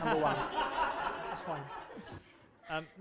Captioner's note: laughter